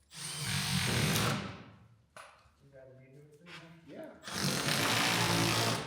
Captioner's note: whirring continues